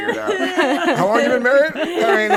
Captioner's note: group laughing